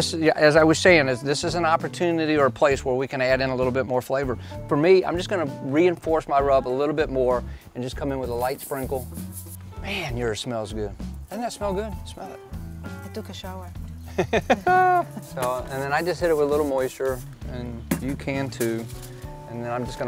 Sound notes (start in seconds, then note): 14.1 laughing